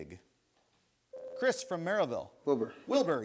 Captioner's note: buzzer sounds